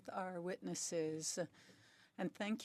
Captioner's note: speaking French